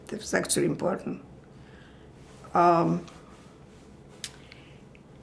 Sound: pauses 6 seconds

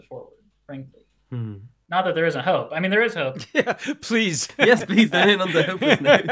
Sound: laughs

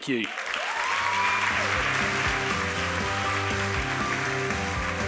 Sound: applause and music

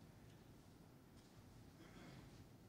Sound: cough

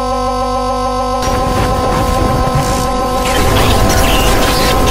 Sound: glitch Sound

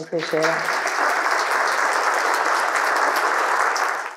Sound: audience applauding

